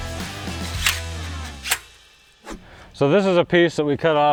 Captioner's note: metallic smacks